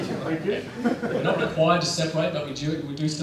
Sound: laughter

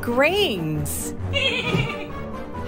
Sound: laughing

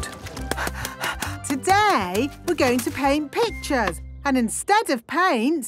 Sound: panting

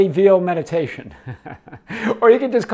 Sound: speaker laughing

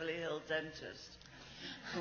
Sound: laughs

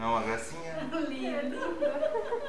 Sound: laughs

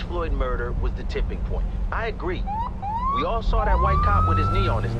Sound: siren blaring

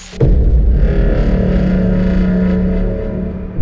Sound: static; fog horn

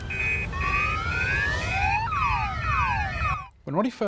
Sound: slugs mimick car alarm

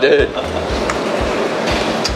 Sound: laughs

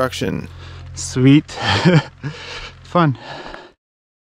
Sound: laughs

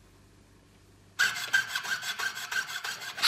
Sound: sawing noises

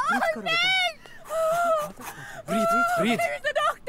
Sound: blows air

